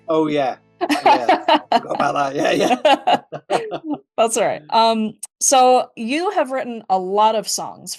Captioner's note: laughs